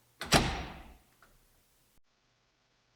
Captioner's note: door bangs